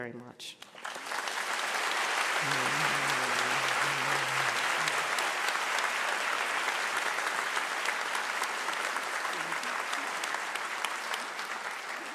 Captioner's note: applause